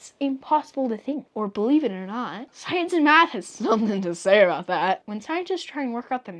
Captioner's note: incredulous